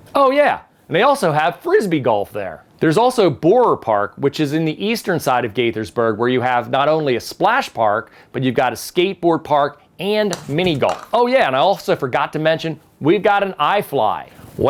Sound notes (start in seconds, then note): 10.3 club taps ball